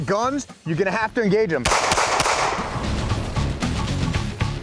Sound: gunshots

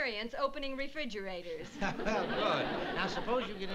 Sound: laughs

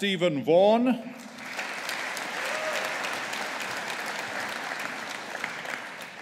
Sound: audience applauding

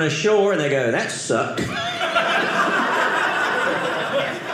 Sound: audience laughing

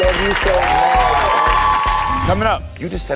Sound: audience cheers

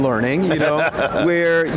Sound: laughs

